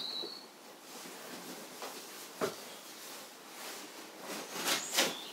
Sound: fabric rustles softly

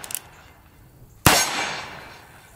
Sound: gun fires

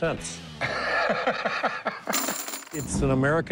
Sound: laughing

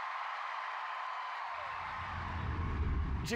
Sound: song ends, cheers and applause

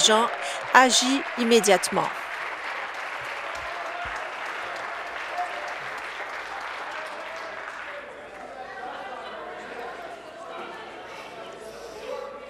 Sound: applause

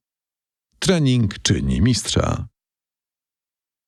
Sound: in Polish

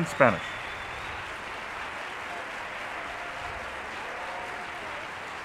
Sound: audience applauding

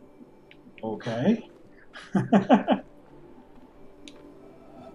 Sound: chuckles

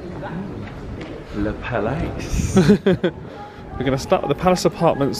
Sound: chuckles

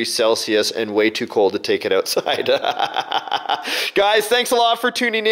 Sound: chuckles

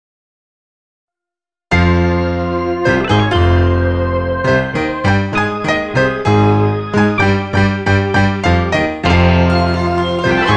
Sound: sound of cosmic threat

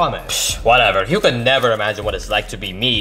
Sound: scoffs

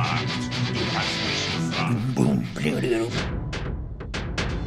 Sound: imitates instrumental; dramatic percussion

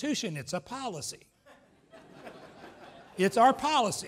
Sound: laughs

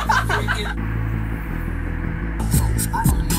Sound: laughter; air blowing; hip hop music

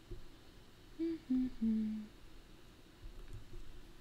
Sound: humming

